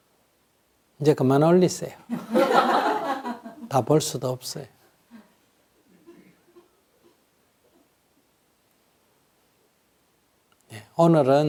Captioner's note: audience laughter